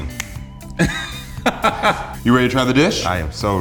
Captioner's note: laughter